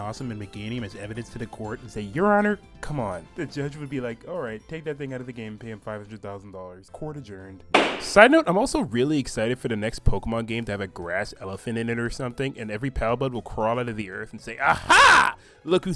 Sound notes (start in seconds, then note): 7.7 gavel bang sfx